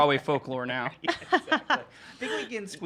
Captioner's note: laughing